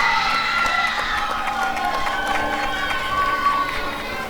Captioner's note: applause and cheering